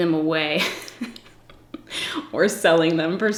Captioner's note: giggles